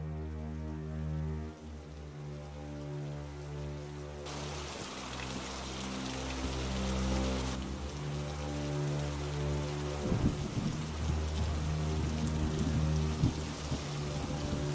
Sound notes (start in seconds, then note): 5.2 rain pattering